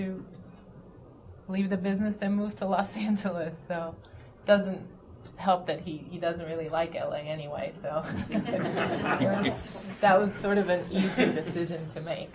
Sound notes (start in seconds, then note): 8.0 laughter